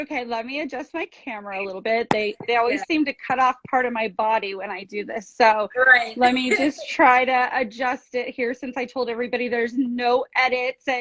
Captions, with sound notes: Okay. Let me adjust my camera a little bit. They, they always seem to cut off part of my body when I do this. So, - Great.(laughs) - Let me just try to adjust it here, since I told everybody there's no edits